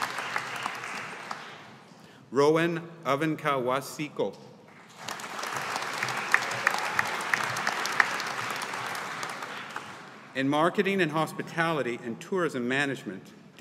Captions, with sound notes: Rowan Ovenka Wasiejko. (AUDIENCE APPLAUDING) In Marketing and Hospitality and Tourism Management,